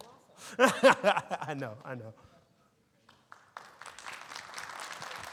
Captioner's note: laughs; audience applauding